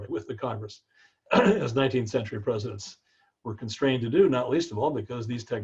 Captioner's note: cough